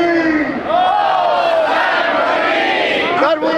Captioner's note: crowd